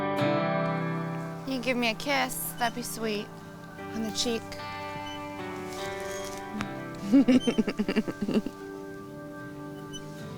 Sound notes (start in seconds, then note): 6.2 giggling